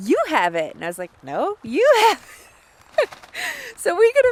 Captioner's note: laughs